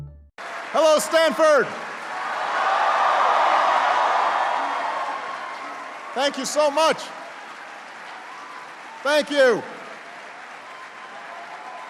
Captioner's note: applause